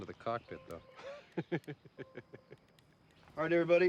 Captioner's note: laughter